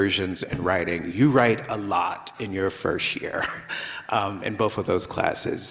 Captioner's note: laughs